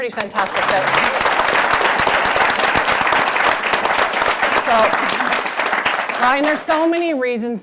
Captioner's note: applause